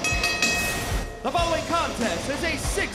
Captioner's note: bell ringing